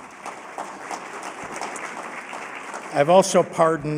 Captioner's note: applause